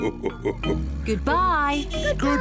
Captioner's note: laughs; horn beeps